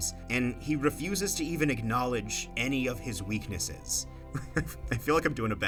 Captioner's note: laughs